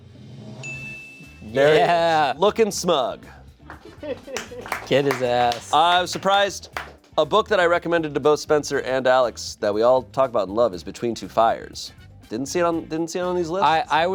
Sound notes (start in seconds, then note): 0.6 chime dings; 3.6 audience members clapping